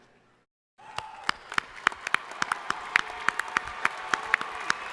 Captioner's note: crowd applauding